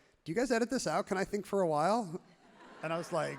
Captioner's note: crowd laughs happily